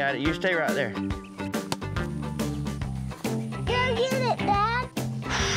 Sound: whack; sighs

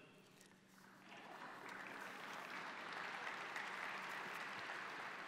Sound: audience applauds

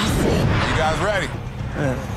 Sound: scene whooshing

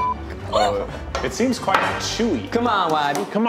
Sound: glass clinks

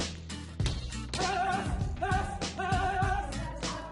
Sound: upbeat music; shouting

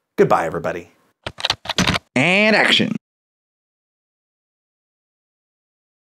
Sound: typing

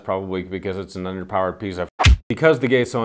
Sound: fist punching

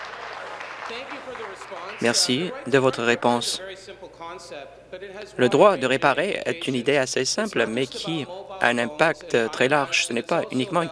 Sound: some Applause

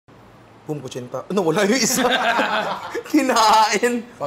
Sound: laughter

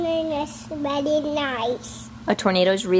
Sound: baby talk

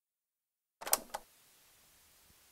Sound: cassette Noise

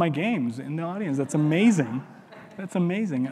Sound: audience chuckling

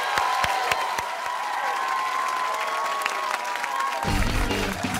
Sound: cheers and applause

